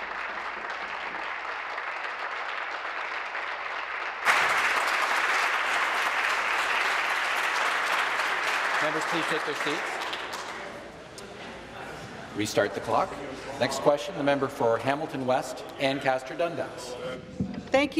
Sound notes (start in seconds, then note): 4.8 applause